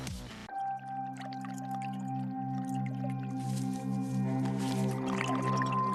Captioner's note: liquid bubbling